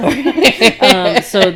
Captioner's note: laughing